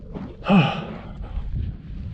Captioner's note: sigh